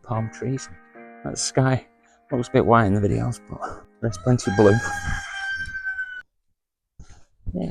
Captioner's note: cockerel crows